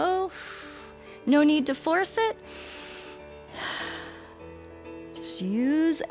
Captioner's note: exhales; inhales and exhales